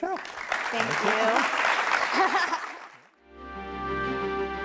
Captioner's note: audience applauding; laughs; upbeat music